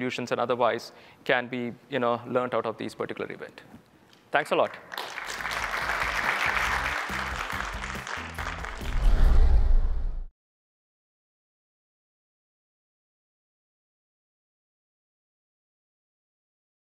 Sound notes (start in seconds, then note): 4.6 applause